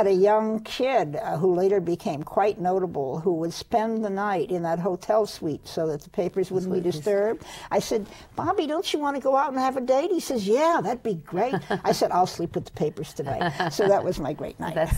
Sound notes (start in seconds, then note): 11.0 laughs